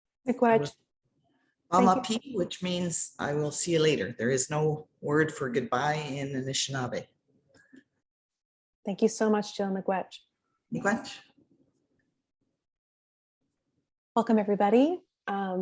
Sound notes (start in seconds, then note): 1.7 speaking in Anishinaabeg